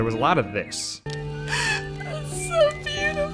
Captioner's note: sniff